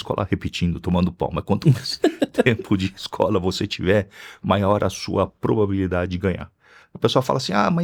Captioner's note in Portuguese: risadas